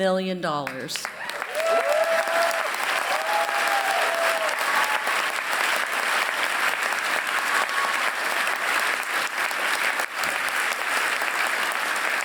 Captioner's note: applause